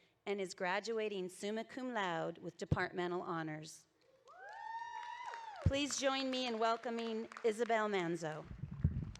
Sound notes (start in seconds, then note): 4.3 audience cheering